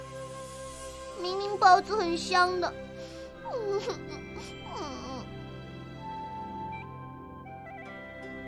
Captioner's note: sniffle